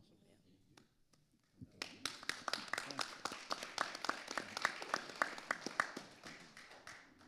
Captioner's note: audience and panelists applauding